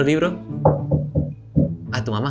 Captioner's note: knock knock